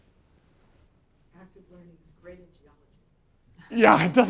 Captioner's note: voiceover